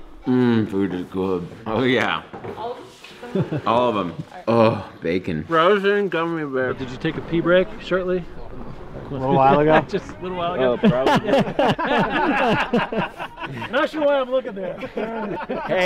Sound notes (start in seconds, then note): 10.8 laughs; 11.8 guys laughing